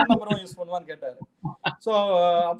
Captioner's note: laughs